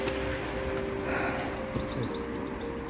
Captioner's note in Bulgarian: въздишки